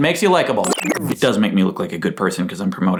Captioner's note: tape rewinding